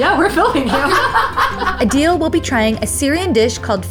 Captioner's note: laugh